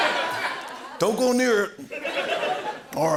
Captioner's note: laughter